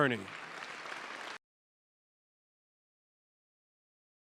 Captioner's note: applause